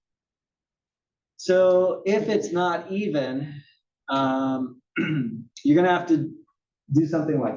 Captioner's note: cough